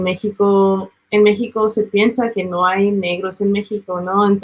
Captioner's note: speaking Spanish